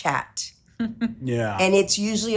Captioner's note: chuckles